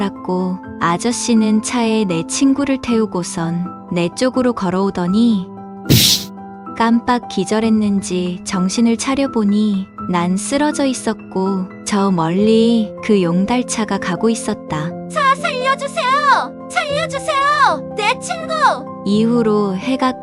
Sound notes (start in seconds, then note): 5.9 hitting sound